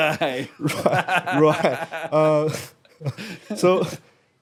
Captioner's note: laughing